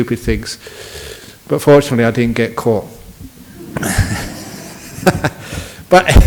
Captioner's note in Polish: Śmiech